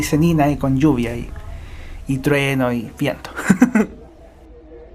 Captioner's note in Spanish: risas